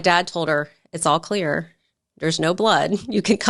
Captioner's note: chuckles